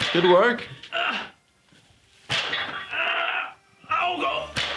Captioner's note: grunting